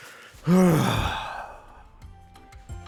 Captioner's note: sigh